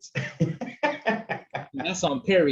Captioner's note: panelists laughing